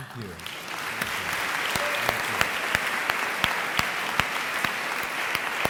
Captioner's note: audience applauding